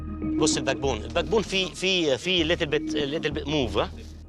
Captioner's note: speaking foreign language